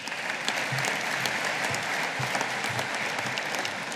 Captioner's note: audience applauding